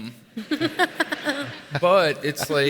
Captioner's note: audience laughs